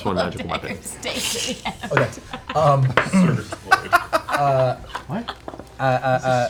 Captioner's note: laughter